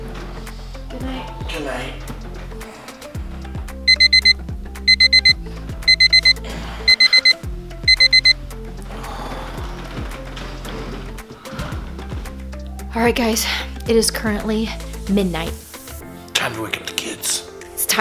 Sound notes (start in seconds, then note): 3.8 alarm beeping